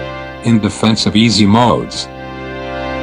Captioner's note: robot Voice